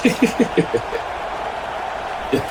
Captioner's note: laughing